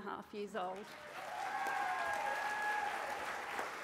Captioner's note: cheering